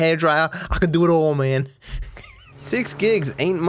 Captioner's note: laughs